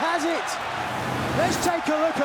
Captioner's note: whooshing sound plays